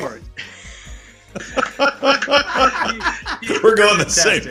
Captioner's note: group laughs